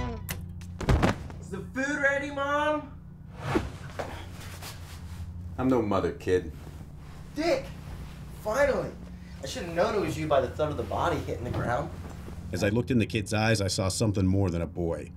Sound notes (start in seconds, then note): 0.8 thudding